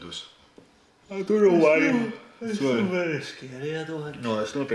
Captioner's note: yawns